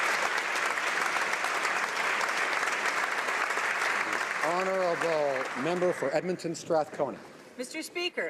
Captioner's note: some Applause